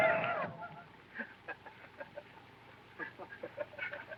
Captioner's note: indians laugh